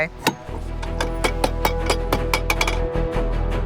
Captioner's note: metallic cranking